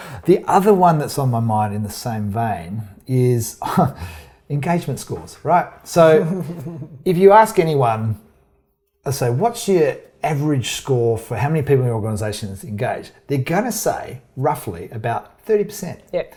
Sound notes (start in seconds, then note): 6.1 chuckles wryly; 6.2 snickers